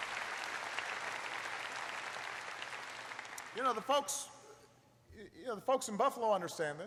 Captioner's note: applause